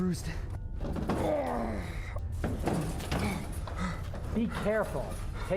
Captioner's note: groaning